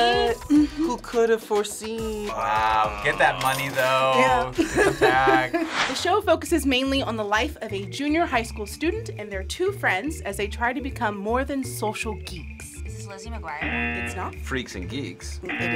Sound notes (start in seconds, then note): 4.4 laughs; 13.6 buzzer